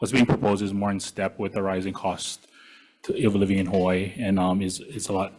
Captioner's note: none